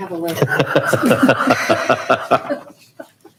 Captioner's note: chuckling